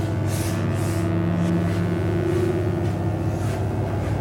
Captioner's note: electric buzzing